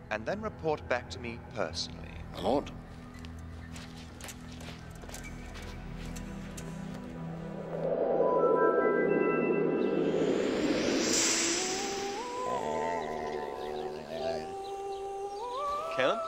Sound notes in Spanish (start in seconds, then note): 7.5 viento silbando; 11.8 música coral inquietante; 13.5 Alvar gruñendo